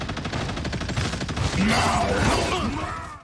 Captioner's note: guns firing; characters grunting